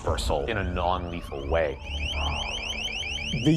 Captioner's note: loud chirping